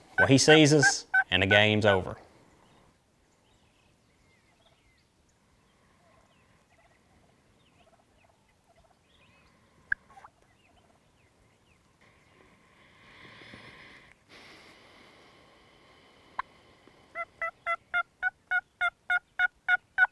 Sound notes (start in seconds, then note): 12.7 deep sigh; 17.1 turkey call